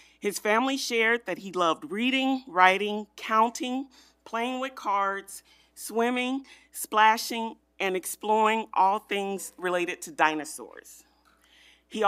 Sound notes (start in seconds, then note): none